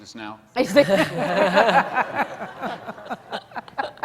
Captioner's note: laughing